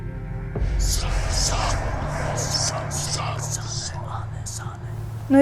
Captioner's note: the Judges of the Underworld incantations in ancient language